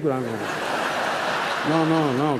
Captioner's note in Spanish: Risas